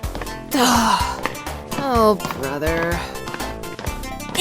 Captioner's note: groans